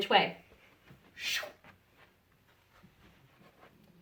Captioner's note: whooshes